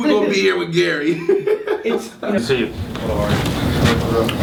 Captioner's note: laughs